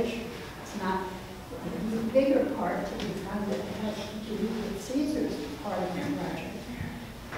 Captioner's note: speaks away from mic